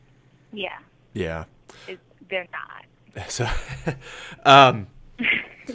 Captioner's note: laughs